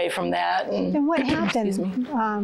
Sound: clears throat

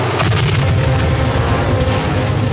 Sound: plane crashing; adventurous music

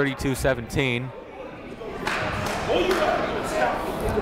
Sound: shouting

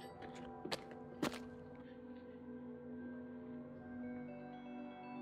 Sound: footstep echoing

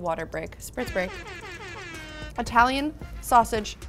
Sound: horns blow

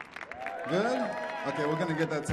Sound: audience cheering

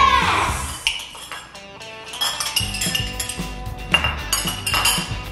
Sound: clinking dishes

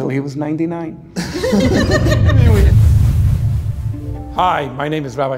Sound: contestants laughing

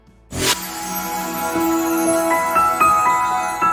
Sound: digital chiming

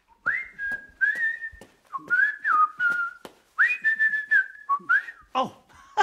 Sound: whistling

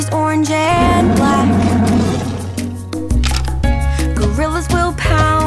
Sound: tiger roars

